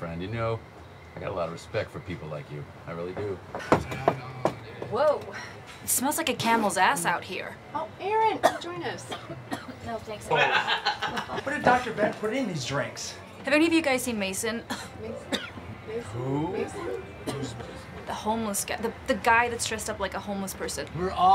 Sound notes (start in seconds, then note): 3.1 heels clacking; 9.5 Erin coughs; 10.3 man laughing; 14.6 coughs